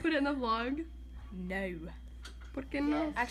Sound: British accent

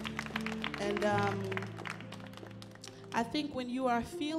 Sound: audience applauds

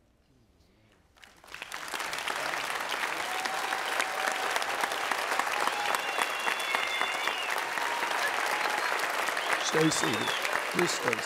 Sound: audience Cheers

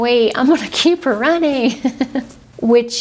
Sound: laughs

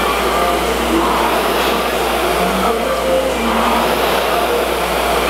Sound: rower roars lightly

